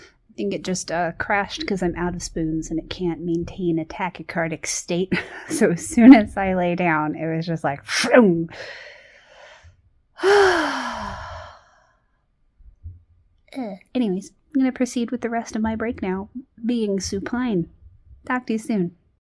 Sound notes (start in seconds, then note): 9.7 mimics whooshing; 10.2 sighs